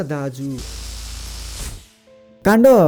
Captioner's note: electric shock